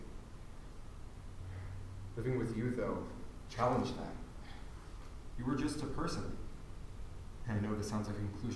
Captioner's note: sigh